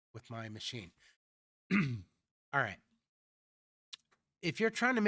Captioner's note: clears throat